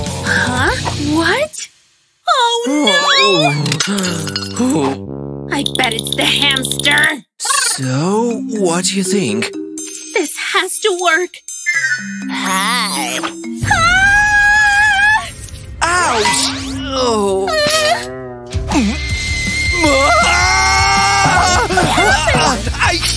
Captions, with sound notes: HUH?! What?... OH NO!!! *moaning* I bet it's THE HAMSTER!!! So, what d'you think? This has to work! Hiii! *screaming* Ouch! AHHHHH!!!! Aa-aa-hhh!